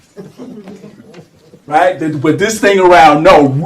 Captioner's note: laughter